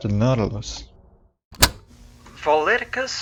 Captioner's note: cassette tape plays